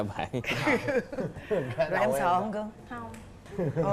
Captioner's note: laughing